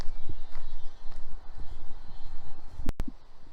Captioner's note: distant machinery noise